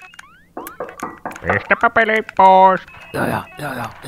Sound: video game sounds; knocking on the door

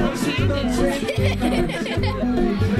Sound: laughing

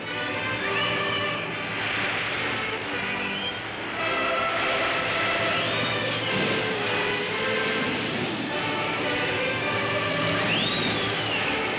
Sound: music plays; waves crashing

